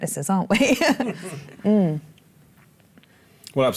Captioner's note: laughter